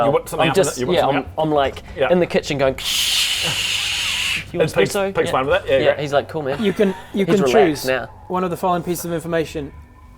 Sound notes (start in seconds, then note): 2.8 krscsssssssssssssssshh